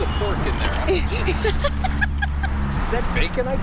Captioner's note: more laughter